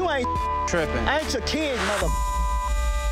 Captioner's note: beep; intense music